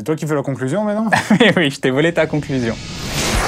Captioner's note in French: rires